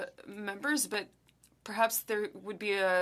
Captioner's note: speaking French